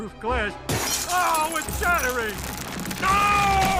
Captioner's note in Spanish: el vidrio se rompe; Homero grita